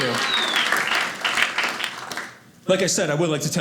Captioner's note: audience applauding